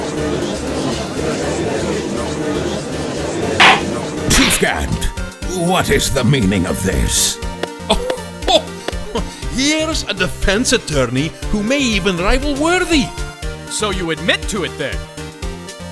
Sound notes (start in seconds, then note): 0.0 gallery chattering; 3.6 gavel slams!